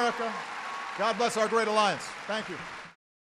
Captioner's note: applause